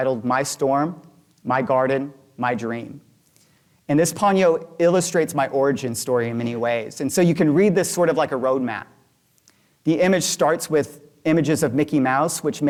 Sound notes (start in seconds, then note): none